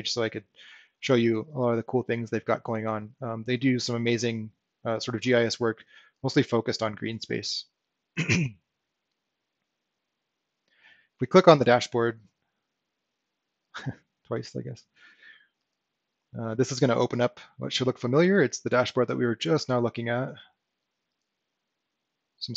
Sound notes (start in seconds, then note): 13.2 chuckles